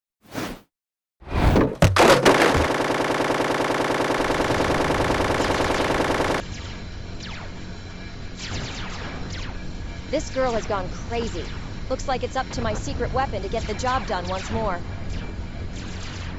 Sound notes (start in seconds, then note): 1.3 whoosh and clatter; 6.9 lasers shooting